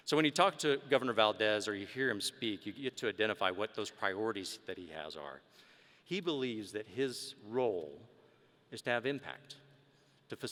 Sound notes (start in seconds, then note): none